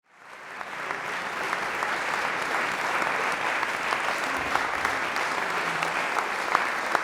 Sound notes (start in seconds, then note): 0.0 audience applauds